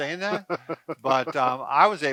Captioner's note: laughs